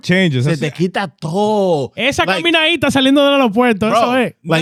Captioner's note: speaking In Foreign Language